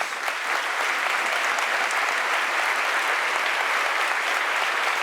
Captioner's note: audience applauding